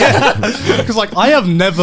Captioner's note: men laugh